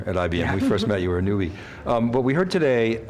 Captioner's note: laughs